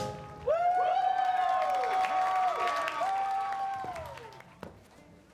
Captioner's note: cheering, applause